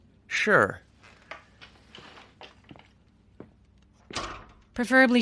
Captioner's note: chair creeks; footstep; door closes